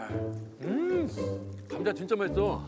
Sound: eating

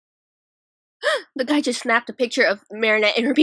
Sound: gasp

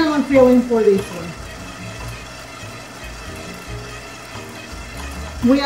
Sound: machine whirring

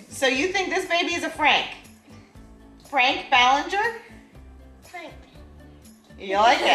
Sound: none

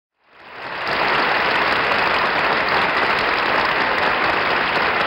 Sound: audience applauds

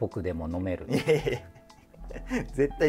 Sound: laughing

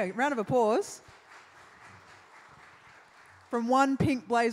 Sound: applause

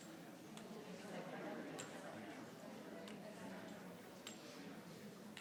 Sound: people chattering continues

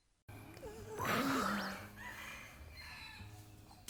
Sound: yawning

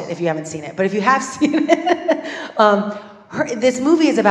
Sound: laugh

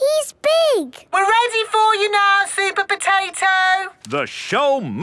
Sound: through megaphone

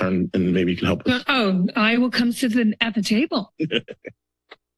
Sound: laughs

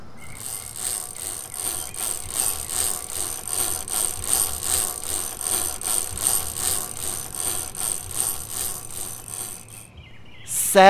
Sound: chain cranking

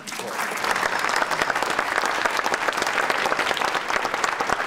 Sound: audience applauding

